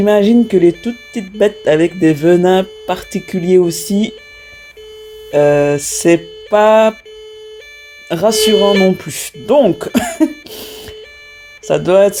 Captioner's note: laughs